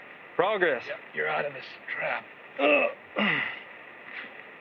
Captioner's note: grunts